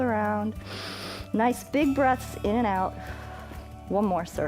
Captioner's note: inhales; exhales